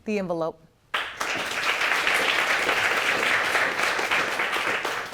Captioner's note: audience applauding